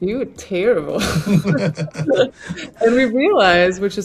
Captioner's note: both laughing